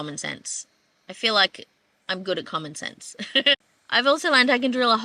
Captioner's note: laughs